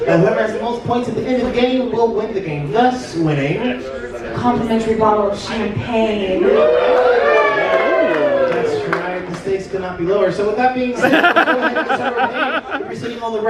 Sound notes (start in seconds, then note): 6.5 guests whooping; 11.0 audience laughs